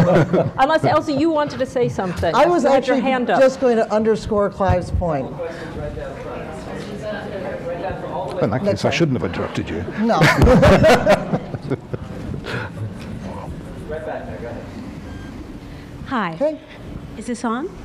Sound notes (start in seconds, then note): 10.1 laughter